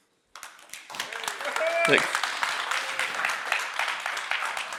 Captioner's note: applause